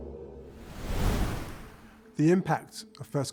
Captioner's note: wind whooshing